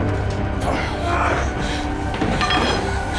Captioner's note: brent groans